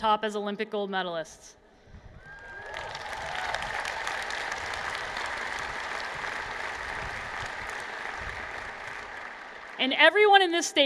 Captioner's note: applause